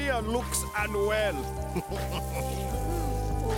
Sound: chuckling

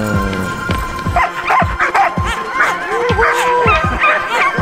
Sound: dogs barking

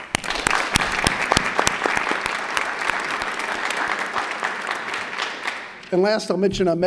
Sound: applause

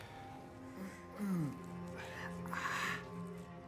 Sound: groaning

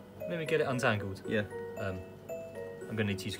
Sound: none

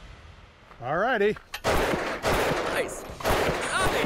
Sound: gunfire

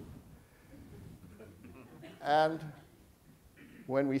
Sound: audience chuckling

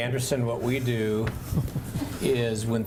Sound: laughter

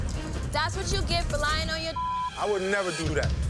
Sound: beep

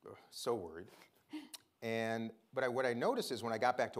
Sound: chuckles

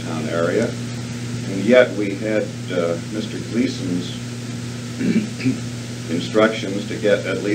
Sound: clears throat

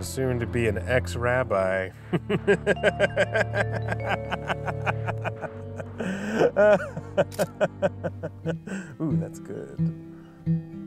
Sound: chuckles

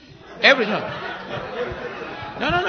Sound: laughter

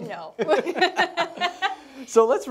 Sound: laughing

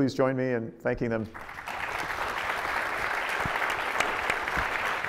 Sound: audience applauding

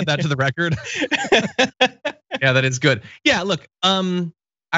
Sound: laugh

